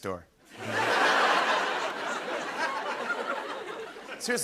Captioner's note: laughter